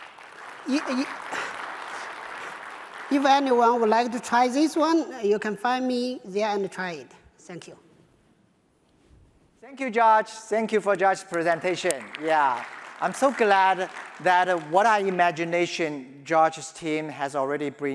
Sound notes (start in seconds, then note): 2.1 applause; 10.8 applause